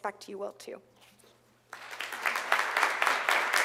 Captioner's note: applause